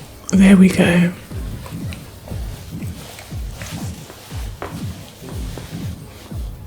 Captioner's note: water splashing